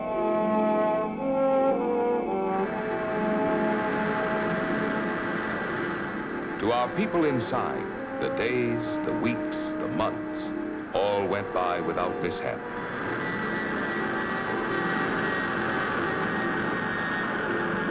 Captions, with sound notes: (engine rumbling) (gentle music) To our people inside, the days, the weeks, the months all went by without mishap. (engine rumbling) (gentle music)